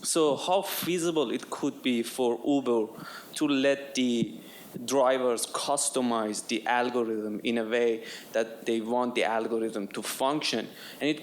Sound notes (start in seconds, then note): none